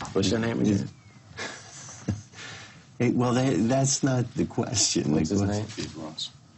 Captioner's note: laughs